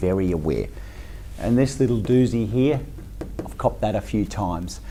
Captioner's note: tapping on board